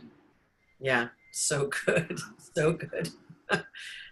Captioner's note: chuckling